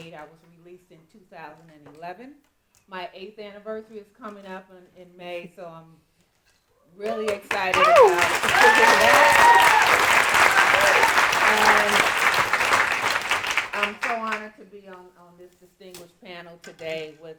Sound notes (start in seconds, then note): 7.1 audience applauding